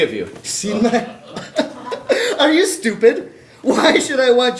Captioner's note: laughs